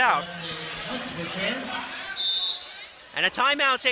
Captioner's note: whistling